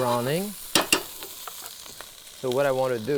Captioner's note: pan sizzling continues